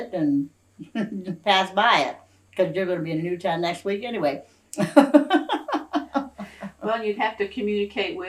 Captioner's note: laughs